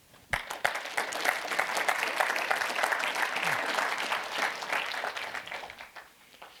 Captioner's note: applause